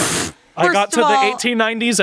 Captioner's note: laughs